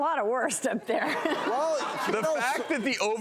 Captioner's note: laughter